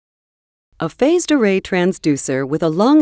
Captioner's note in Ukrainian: Голос за кадром